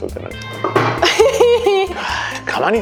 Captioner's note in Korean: 쿠당탕!